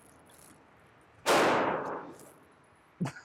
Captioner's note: gunshot booms; chuckles